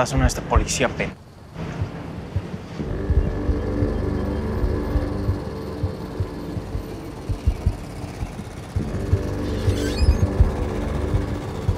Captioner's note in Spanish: Ruido de la camioneta